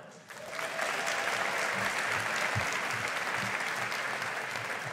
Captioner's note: audience applauding